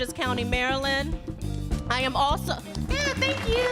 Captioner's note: audience applauds